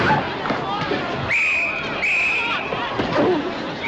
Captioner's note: whistle blowing; groaning